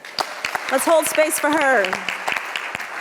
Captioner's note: audience applauds